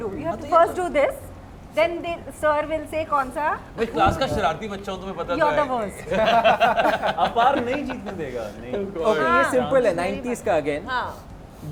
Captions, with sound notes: do, you've to first do this then sir will say which movie- no, you know how the naughtiest kid in the class is!- you are the worst [Laughs] -Apar won't let us win- yeah -this one is simple, it's of 90s again-yes